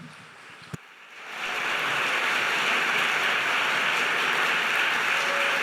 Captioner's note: audience applauding